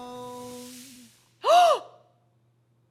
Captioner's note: gasp